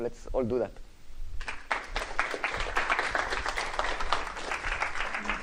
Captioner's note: applause